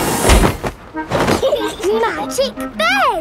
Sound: laughing

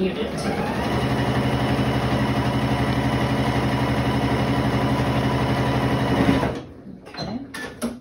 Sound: sewing machine noises

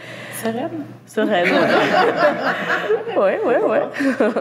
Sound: laughs

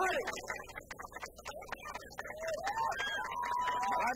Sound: applause

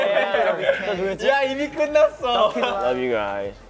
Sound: speaking Korean

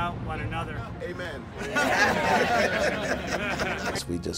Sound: laughter

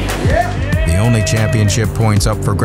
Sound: audience cheers

